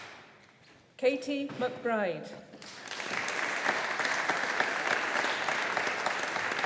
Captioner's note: audience applauding